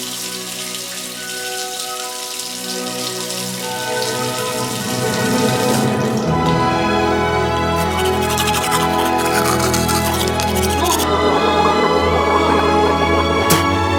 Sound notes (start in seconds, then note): 0.6 water running; 7.6 brushing teeth; 11.5 gargling